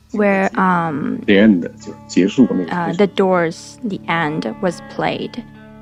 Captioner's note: speaking Mandarin Chinese